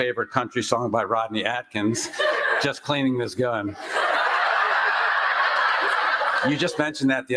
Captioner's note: laughter